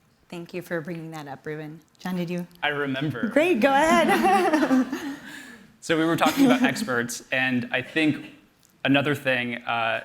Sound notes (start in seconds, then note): 3.8 laughter